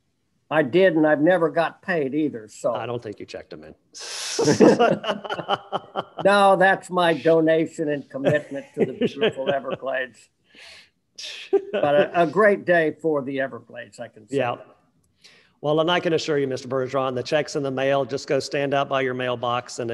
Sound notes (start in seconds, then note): 4.4 crowd laughing; 8.2 laughing